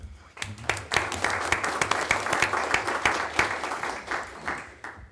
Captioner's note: audience applauding